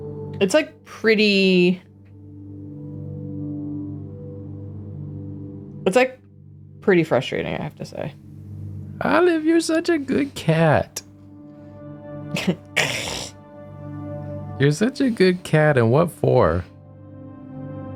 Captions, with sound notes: It's like, pretty… It's like, pretty frustrating, I have to say. Olive, you're such a good cat. [growl] You're such a good cat and what for?